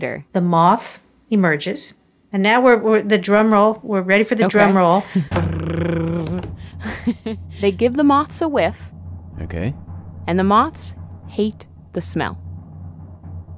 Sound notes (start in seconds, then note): 5.7 makes drumroll sound